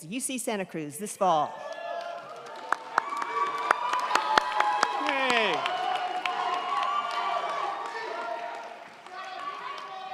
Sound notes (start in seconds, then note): 1.5 crowd cheering; 1.6 crowd clapping